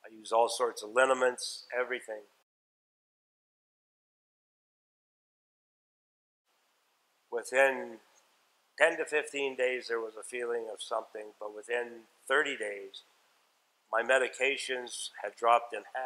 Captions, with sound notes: I use all sorts of lineaments, everything. (silence) Within 10-15 days there was a feeling of something, but within 30 days, my medications had dropped in half